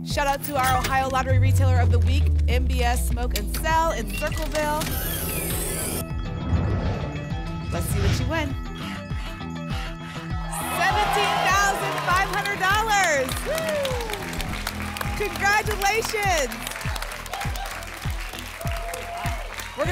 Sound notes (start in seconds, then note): 4.0 ticket dispenser sound; 6.1 alarms; 6.1 whoosh; 9.3 alarms; 9.3 scratching sounds; 12.1 applause and cheering; 16.6 applause and cheering